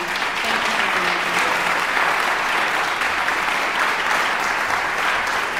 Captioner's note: audience applauding